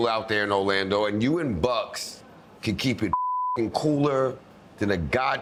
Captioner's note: beep